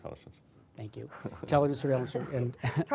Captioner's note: laughter